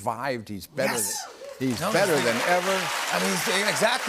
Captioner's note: cheers and applause